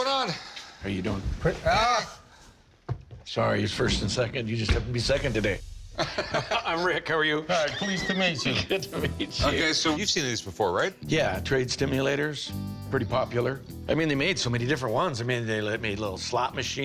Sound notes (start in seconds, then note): 7.4 laughs